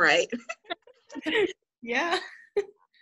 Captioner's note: laughter